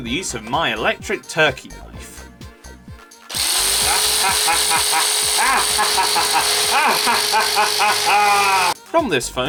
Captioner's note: maniacal laughter